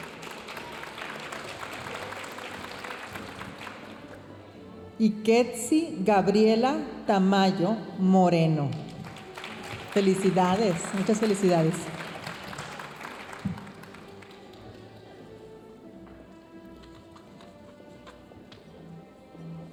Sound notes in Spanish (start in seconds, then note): 0.0 aplausos de la audiencia; 9.0 aplausos de la audiencia; 14.4 continúa la música majestuosa suave en el fondo